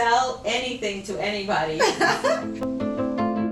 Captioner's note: laughs